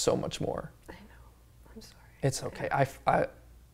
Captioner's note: whispers